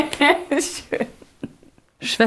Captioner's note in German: lachend